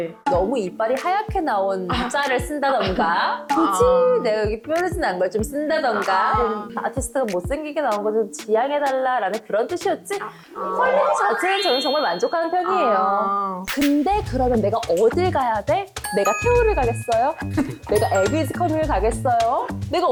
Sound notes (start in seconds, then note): 11.0 soothing sound effect; 13.7 anyway, sound effect of trying to be a PD